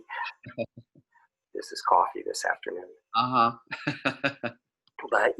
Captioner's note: laughing